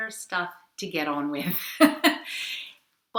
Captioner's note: laughs